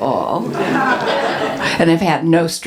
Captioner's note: audience laughs